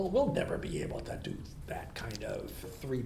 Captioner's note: none